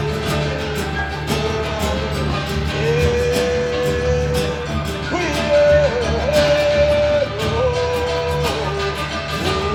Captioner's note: humming